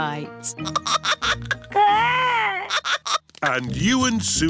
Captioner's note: giggling